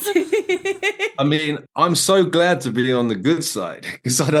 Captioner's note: laughing